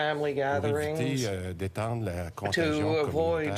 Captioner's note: speaking French